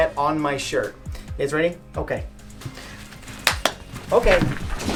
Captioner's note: claps